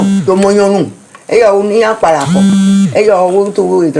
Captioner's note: vibration…